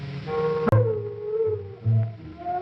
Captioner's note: dog howling